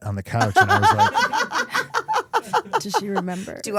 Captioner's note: Stephanie laughing